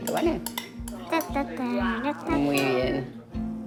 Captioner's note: hums